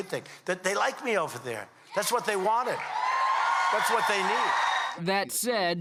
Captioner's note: cheers